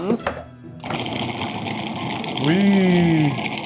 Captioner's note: food processor whirring